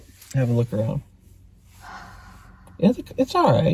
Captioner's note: Kandus sighs